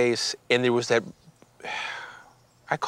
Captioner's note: sighs